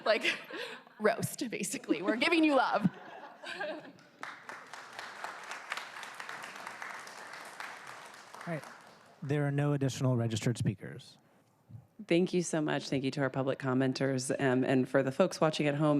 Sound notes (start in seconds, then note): 8.6 applause